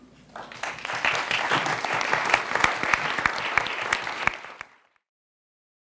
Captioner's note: audience clapping